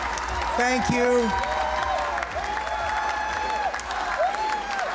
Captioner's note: cheers and Applause